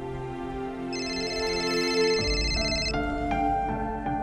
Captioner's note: phone ringing